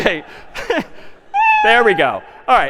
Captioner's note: میو زدن